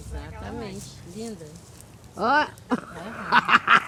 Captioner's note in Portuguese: gargalhadas